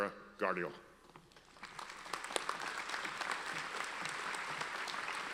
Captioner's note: audience applauds